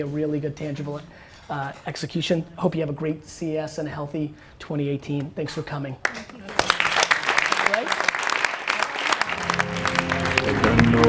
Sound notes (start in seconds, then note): 6.0 applause; 9.3 dramatic piano music